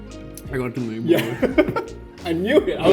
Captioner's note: laughs